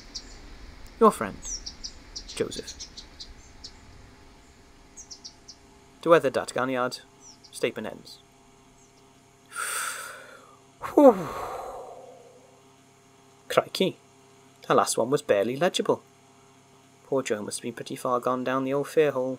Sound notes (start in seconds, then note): 9.1 forest, flycatcher twittering sfx fade; 9.1 takes a deep breath and exhales